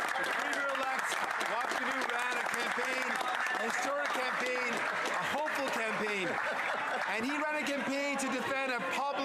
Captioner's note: some Applause